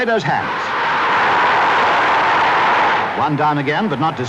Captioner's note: crowd roaring